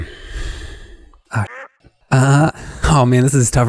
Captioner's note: duck quacking